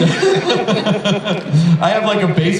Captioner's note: laughter